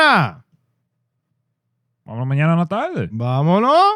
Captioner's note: speaking In Foreign Language